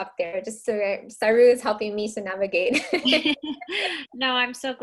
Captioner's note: laughs